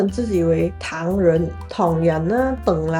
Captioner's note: Cantonese